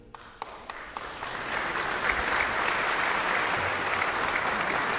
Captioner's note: guests applauding